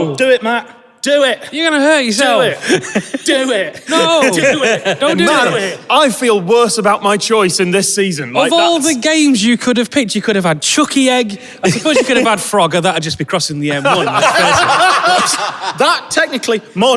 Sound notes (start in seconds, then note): 2.6 wheezing giggles; 13.6 group laughing